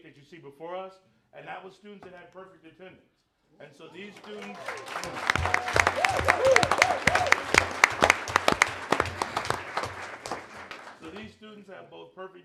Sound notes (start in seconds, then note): 6.6 applause